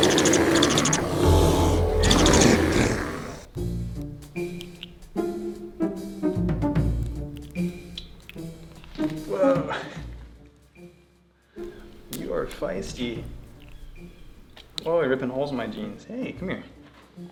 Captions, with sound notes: [Growl] Whoa you are feisty oh you're ripping holes in my jeans hey come here